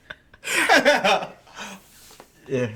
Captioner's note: laughing